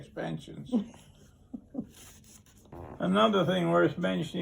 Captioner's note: interviewer laughs